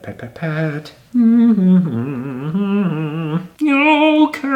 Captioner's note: humming